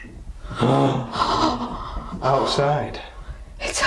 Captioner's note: gasps